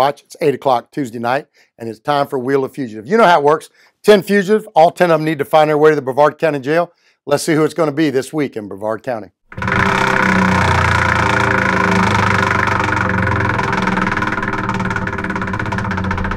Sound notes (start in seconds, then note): 9.5 wheel rattles